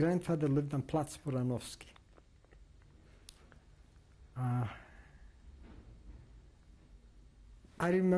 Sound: pauses for 6 seconds

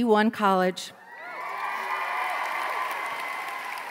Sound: applause

